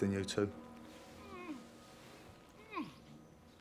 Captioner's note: Gordon groans